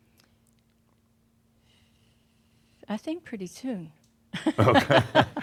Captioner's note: they chuckle